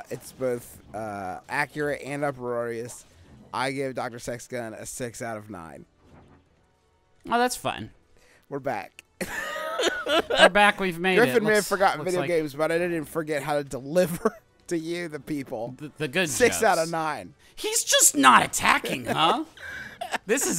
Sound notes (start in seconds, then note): 9.2 laughing hysterically; 18.9 laughing